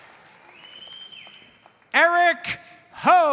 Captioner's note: audience cheers and applauds; audience member whistles